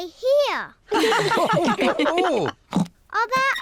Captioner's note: all laugh